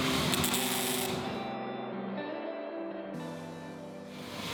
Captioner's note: welding buzzing